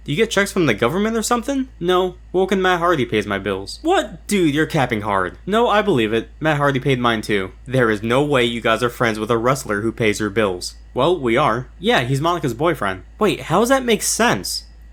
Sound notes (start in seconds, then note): none